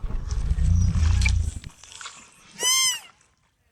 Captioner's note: growls